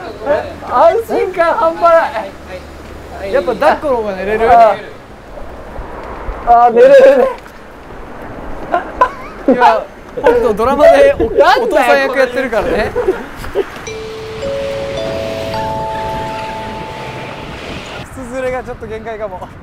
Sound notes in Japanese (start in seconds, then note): 13.8 アナウンス音